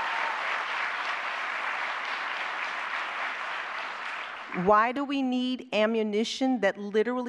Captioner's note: applause